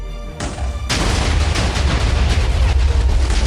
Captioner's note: explosion sounds